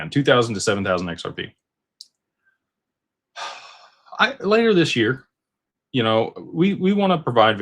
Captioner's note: sighs